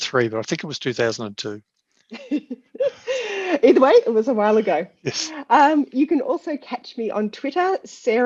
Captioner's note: laughter